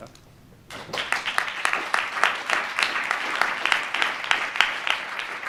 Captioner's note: audience applause